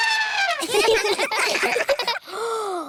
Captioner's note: trumpets; all giggle; gasps